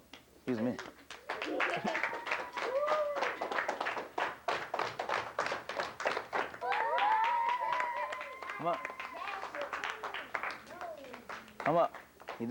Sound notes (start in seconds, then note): 0.6 applause; 6.7 whooping and applause